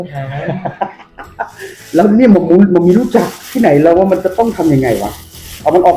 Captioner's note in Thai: หัวเราะ